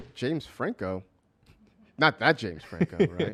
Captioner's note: laughs